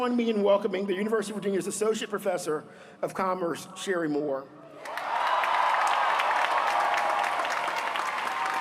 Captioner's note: applause